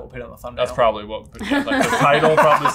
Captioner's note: laughter